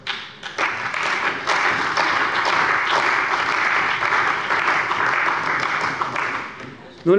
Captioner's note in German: Beifall bei der CDU und dem BÜNDNIS 90/DIE GRÜNEN